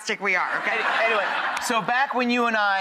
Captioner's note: audience laughs